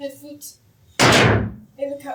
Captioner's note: sticks pound